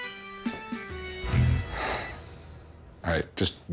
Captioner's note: sighs